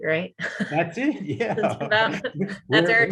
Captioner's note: participants laughing